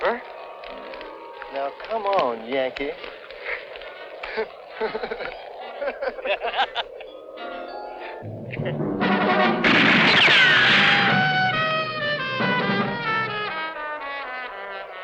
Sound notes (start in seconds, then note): 4.1 laughing; 8.2 dramatic music; 9.0 guns firing